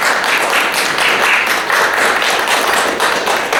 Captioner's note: applause